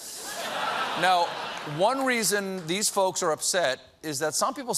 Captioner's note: laughter